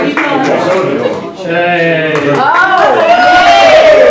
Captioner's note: applause